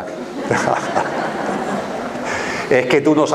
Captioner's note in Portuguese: risos